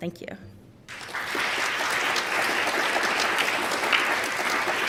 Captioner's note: applause